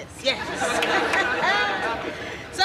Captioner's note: laughs